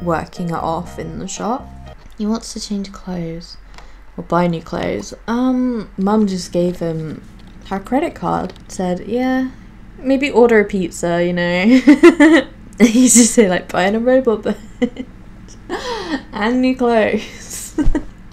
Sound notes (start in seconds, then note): 11.6 laughs